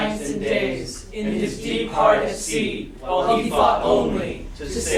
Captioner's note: chanting